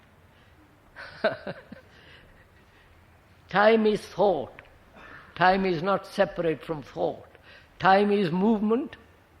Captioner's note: laughs